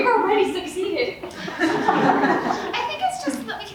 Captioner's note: audience laughs